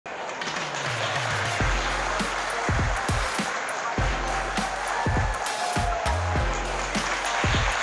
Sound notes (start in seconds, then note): 0.1 audience clapping; 0.4 upbeat music